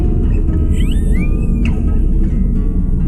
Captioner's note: whining